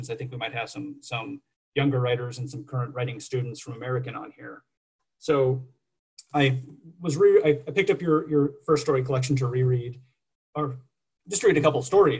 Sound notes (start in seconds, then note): none